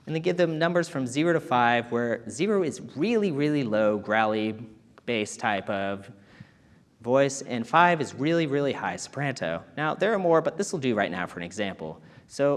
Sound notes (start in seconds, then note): none